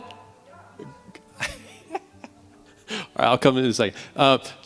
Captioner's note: laughing